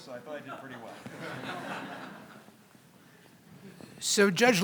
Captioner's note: audience laughs